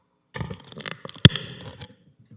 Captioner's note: microphone pops